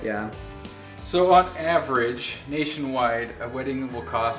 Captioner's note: male Voice